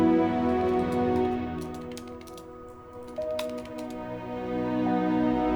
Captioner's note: keyboard clacking